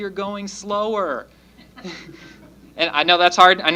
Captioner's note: laughter